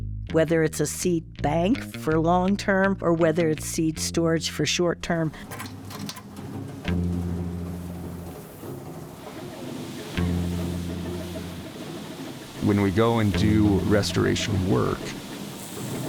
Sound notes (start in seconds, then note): 5.4 metal clicking